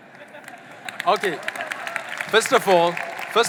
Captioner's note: audience laughing and applauding